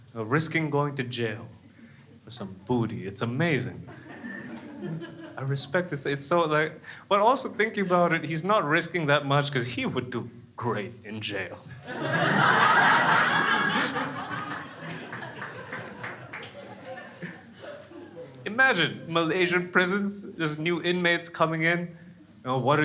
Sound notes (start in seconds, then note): 11.7 crowd laughs